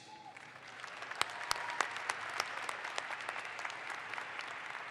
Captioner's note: audience applauds